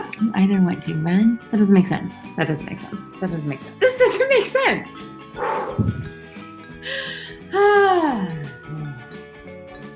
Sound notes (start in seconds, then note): 5.4 exhales; 8.6 sighs